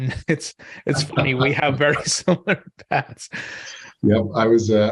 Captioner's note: laughs